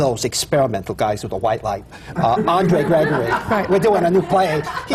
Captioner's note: laughter